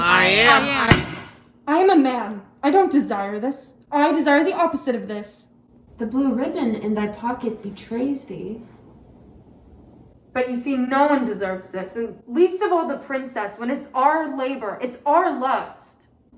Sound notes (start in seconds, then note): 0.9 box slams closed